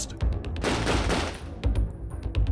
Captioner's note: tense music; guns firing